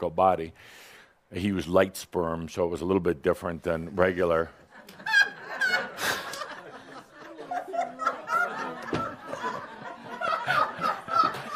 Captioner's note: some laughter